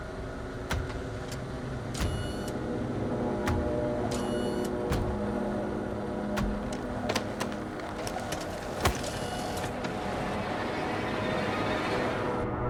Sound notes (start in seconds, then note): 2.0 robot whirring mechanically; 7.9 ominous music